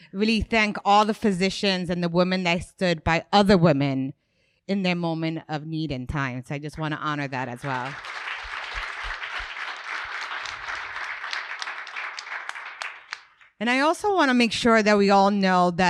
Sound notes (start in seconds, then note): 7.4 audience clapping